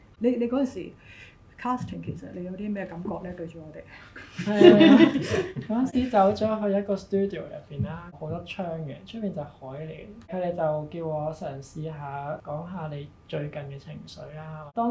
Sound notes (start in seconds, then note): 4.1 laughter